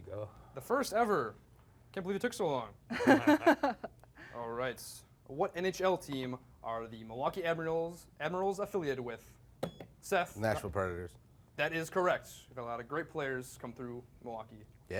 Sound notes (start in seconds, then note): 2.9 laughing; 9.1 beep